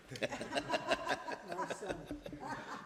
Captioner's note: laughter